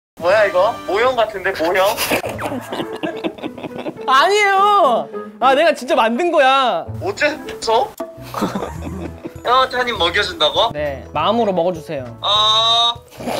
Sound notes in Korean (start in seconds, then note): 1.7 빵 터짐